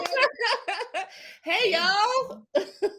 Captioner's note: laughs